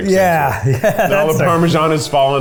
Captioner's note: laughs